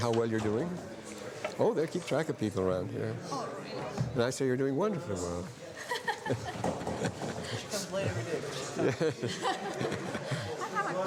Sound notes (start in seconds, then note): 5.7 laughter